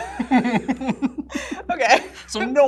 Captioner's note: both laugh